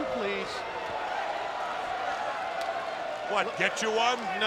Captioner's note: spectators cheering